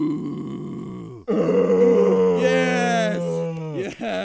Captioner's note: grunting